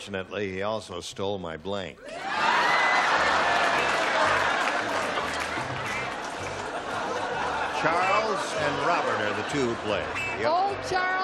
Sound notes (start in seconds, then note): 2.1 laughter